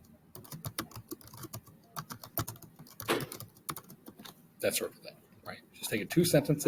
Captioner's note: typing